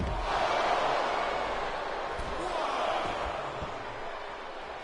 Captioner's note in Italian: Applauso